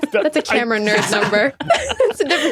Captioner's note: group laughing